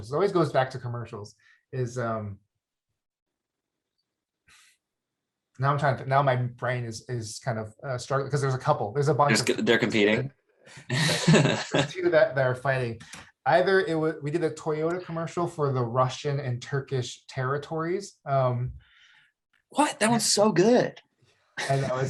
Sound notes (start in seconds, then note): 10.8 laughs; 21.6 chuckles